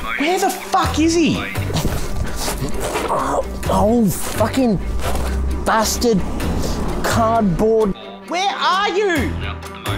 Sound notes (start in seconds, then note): 1.6 grunting